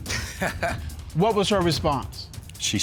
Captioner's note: chuckles